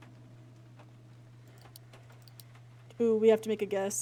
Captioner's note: rhythmic Huffing